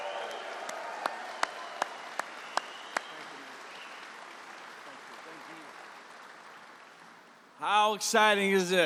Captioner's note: applause